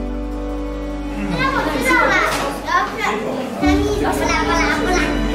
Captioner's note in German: Spielende Kinder, Kinderstimmen